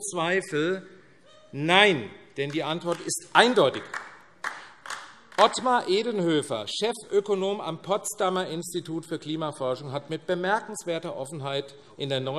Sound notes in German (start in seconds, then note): 4.0 Vereinzelter Beifall AfD